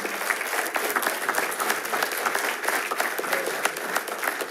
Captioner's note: attendees applauding